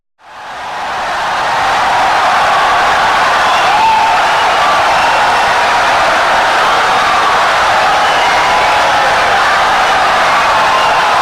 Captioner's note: wild applause and cheering for 17 seconds